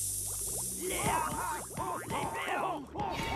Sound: sizzling; groaning

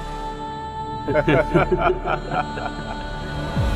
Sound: laughing

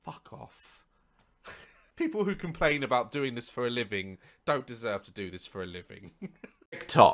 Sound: quiet laugh

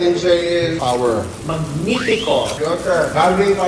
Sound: speaks in Italian

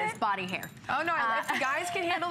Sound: laughter

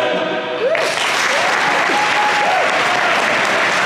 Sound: applause

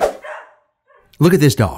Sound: dog barking

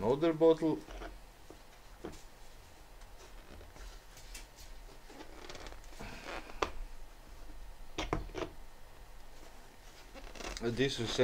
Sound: sound of 'fighting' with plastic material

